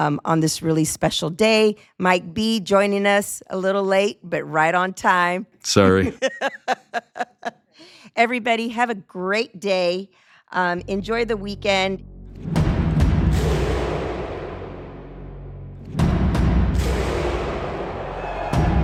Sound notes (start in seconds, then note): 5.9 laughing; 13.1 roaring music